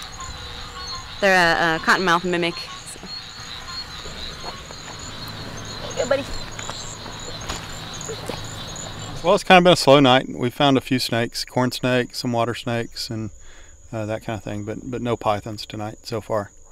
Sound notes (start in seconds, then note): 2.8 frogs calling